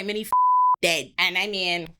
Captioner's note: beep